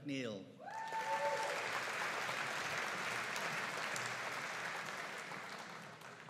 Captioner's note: audience cheering and applauding